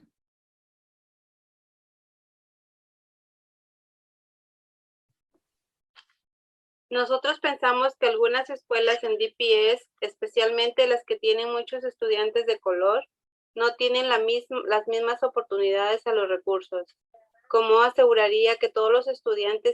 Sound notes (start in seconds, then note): 11.3 speaking Spanish